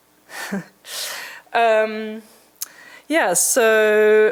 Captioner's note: chuckling